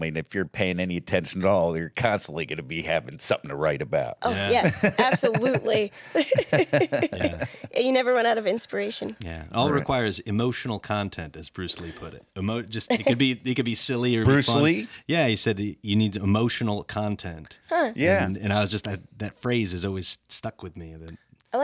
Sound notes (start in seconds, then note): 4.2 laughs; 6.5 both laugh